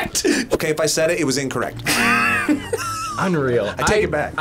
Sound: laughs; laughs

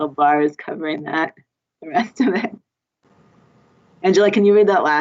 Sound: laughs

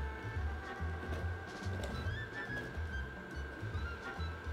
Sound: simmering; apples dropping

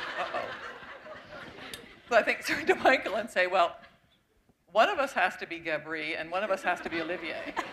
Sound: laughter

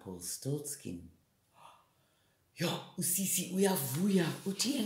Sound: gasp!

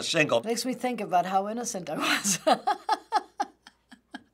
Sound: chuckling

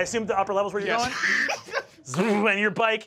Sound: chuckling

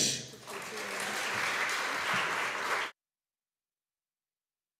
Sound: audience applauding

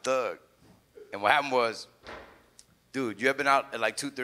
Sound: chair thuds

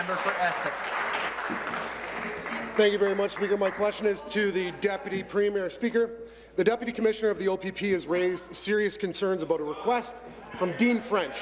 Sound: some Applause

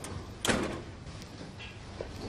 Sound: door closing

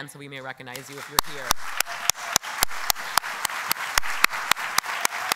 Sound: applause

